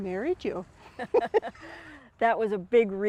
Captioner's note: both women chuckling